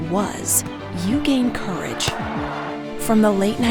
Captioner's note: ball thudding